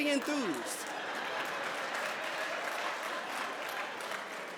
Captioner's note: laughter and applause